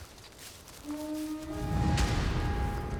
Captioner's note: horn blowing